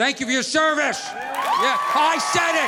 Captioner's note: audience applauding